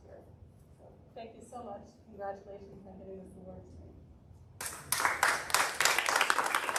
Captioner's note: audience--applause